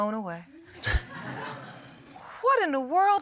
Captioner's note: scattered laughter